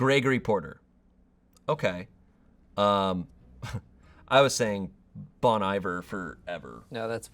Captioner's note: chuckles